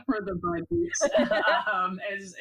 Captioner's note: all laugh